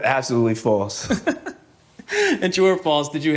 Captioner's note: laughing